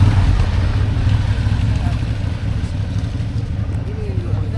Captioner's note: engine roaring